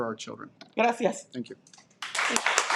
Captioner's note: speaking in Spanish